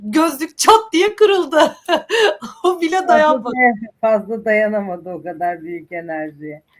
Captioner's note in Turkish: kahkaha